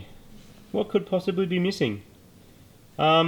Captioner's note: sarcastically